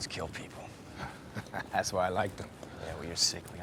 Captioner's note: laughs